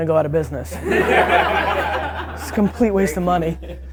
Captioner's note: group laughter